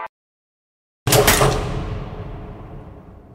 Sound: lights flicked on

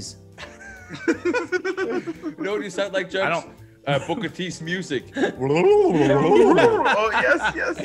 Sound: laugh

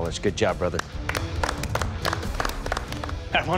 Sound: clapping

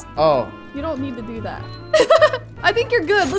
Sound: laughs

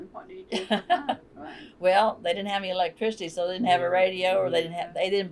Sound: laughter

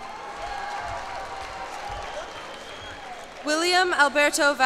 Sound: cheers and applause

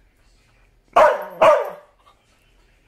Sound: barking

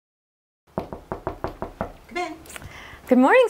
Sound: knocks

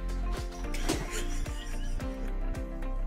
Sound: upbeat music; person laughing; upbeat music

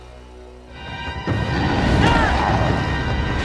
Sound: growling

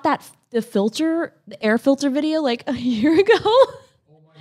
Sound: laughs

